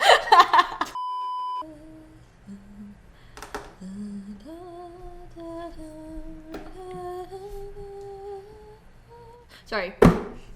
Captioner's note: quiet humming